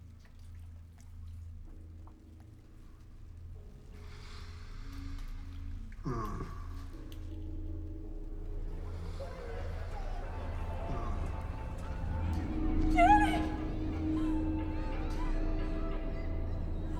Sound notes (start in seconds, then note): 0.2 gentle tense music; 9.6 voices whispering; 14.4 eerie music